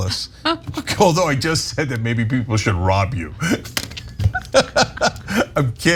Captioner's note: laugh; laugh